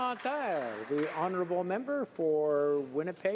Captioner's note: cheers and Applause